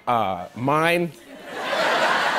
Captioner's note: laughter